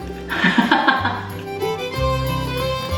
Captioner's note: laughs